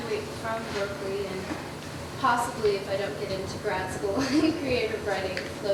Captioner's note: laughs